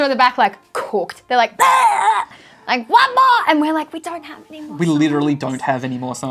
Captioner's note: bleurrrgh